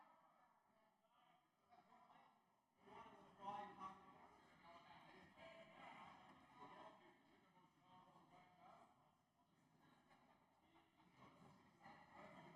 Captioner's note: some Applause